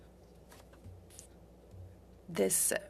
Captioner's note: speaking French